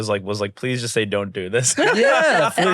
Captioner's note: laughs